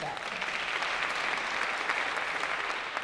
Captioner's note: applause